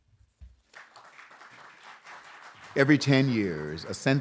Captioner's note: applause